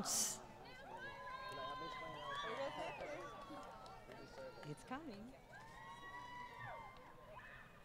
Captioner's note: crowd Cheering